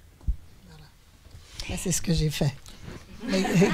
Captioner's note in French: rires